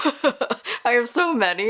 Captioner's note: laughs